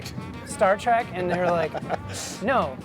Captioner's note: laughs